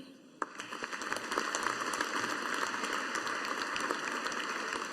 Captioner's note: audience applauding